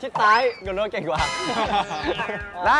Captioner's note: another laughter sealed